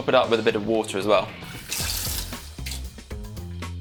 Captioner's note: water splashes